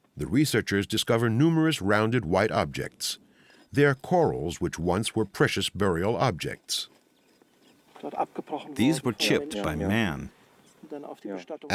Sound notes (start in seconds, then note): 8.0 man speaking German